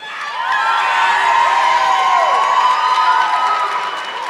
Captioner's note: audience clapping